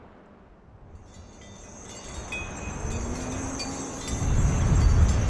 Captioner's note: bells tingling